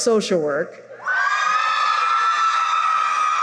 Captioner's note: cheering